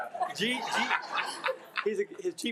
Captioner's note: attendees laughing